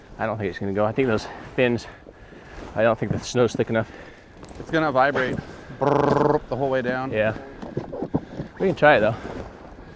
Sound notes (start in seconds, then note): 6.2 imitating boat rumbling